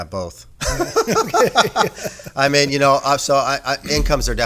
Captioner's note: laughing